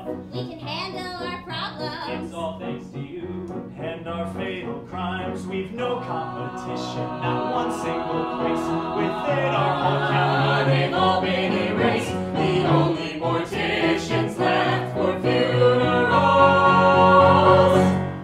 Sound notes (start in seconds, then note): 6.2 others vocalize in background